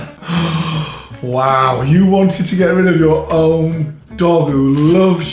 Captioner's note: gasping